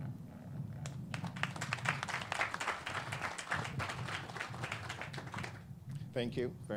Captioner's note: clapping